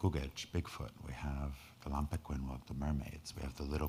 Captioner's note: speaking in foreign language